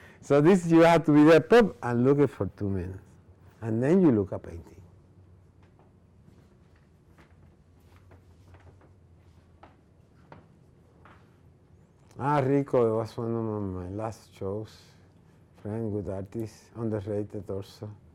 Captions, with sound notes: So this you have to wrap up and to look for two minutes And then you look at painting. (speaking foreign language) That this underrated or so.